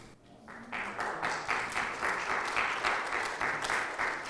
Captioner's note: audience clapping